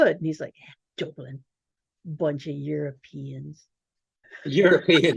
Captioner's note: laughing